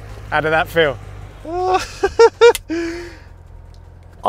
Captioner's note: laughs